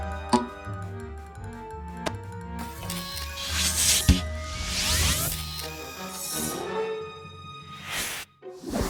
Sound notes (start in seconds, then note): 3.2 suction hissing